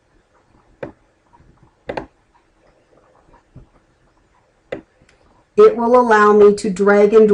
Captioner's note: clicking